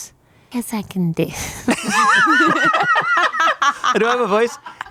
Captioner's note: everyone laughs